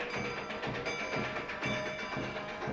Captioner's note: bell ringing